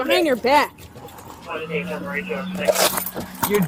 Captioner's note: radio chatter